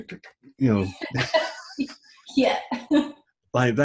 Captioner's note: laughing